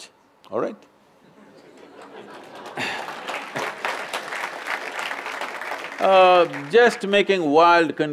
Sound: laughter/Applause

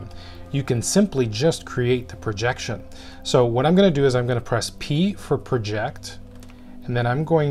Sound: keyboard

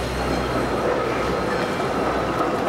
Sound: tram bell dings

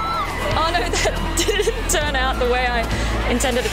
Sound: laughs

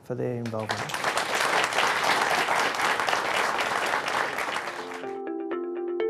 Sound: applause

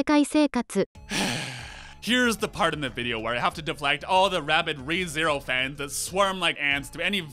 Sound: sigh

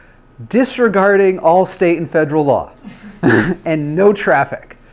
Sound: laughs

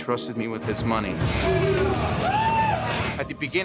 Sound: patrons cheering

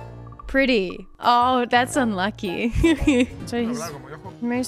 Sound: giggles

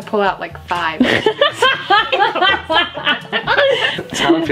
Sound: laughter

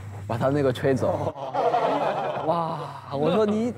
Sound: all together, laughing out loud

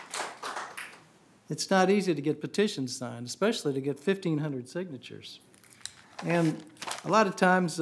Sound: applause

